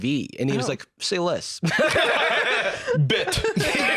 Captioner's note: all laughing